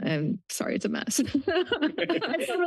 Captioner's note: laughs